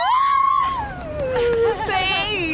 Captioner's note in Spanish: gritos eufóricos